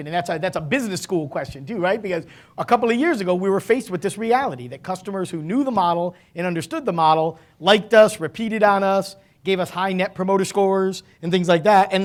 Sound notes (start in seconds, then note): none